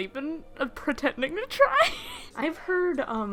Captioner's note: laughing